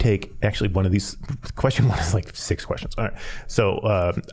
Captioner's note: chuckling